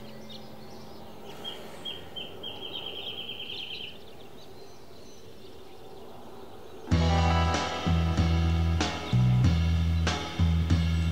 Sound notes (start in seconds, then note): 1.1 bird sings